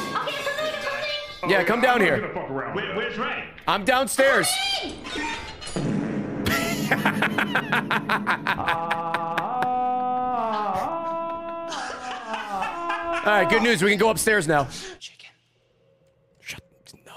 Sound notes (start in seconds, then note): 8.3 fart noise; 9.7 laughs